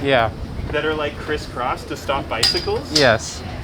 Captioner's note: cane rings bars like chimes